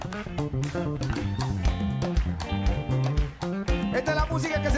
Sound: speaking in Spanish

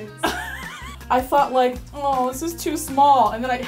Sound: laughs

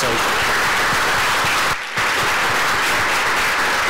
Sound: applause

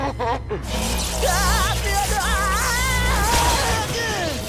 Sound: laughing; screaming

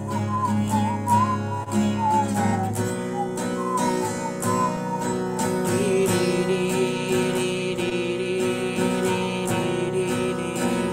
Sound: whistling

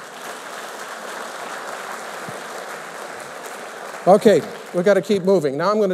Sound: applause

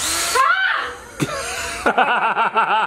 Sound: yelling; laughing

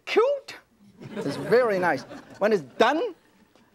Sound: audience laughs

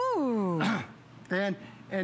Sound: coughing

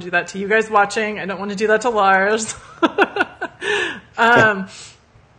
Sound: laughs

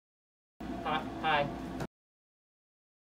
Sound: awkward stammering

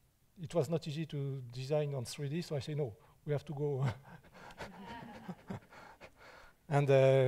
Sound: chuckles

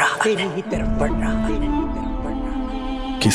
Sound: echoing

